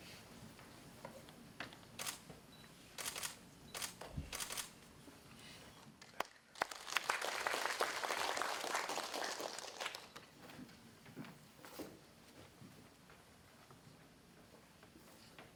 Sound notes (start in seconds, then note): 3.0 camera clicking; 6.0 audience applauding